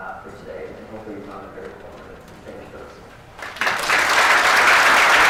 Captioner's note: audience applauds